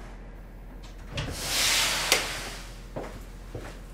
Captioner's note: sanding